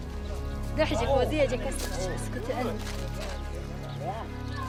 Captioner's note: Iraqi woman speaks in Arabic